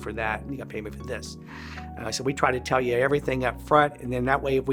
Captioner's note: inhale